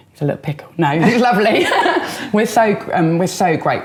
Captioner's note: laughing